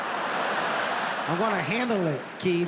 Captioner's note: audience laughs